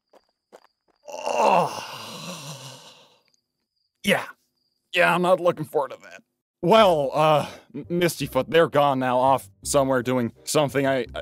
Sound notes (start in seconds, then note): 1.0 groans in disgust